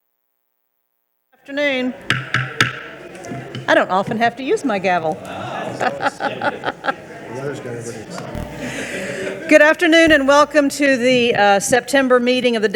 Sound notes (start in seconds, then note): 2.0 gavel thudding; 2.7 people chattering; 5.2 chuckling; 6.7 people chattering